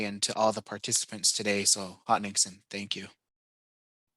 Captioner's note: speaking Native Language